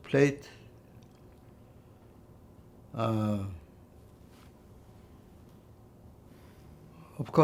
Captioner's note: pauses 6 seconds